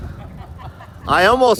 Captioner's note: laughter